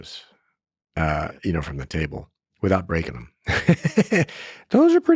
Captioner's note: laughs